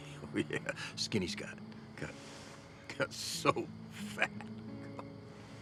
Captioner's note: chuckles; gentle somber music